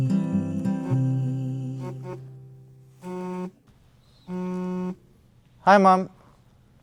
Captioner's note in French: Téléphone sonne